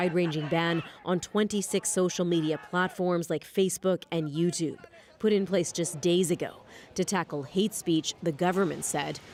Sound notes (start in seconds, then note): 1.3 chanting